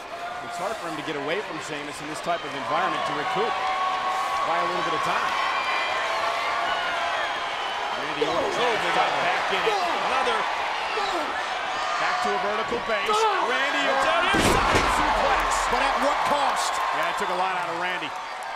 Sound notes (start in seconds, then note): 6.0 applause